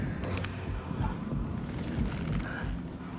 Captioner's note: whispers